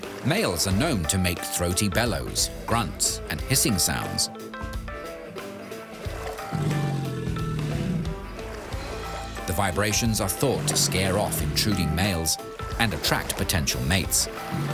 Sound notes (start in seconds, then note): 6.2 low grunting